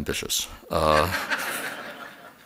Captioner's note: laughter